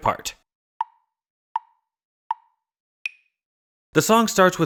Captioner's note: tick, tick, tick, tick, tock